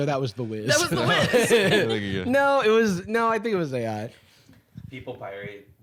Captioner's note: laughs